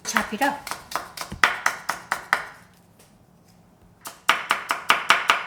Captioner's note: knife tapping